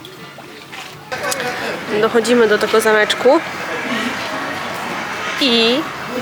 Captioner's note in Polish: Aplauz